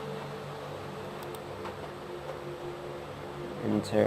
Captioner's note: mouse click